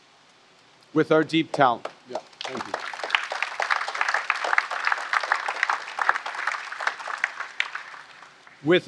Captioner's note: applause